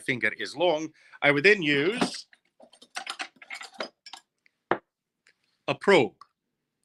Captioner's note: instruments clanking